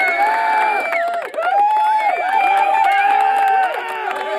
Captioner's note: people applauding